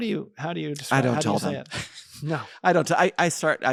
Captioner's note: laughs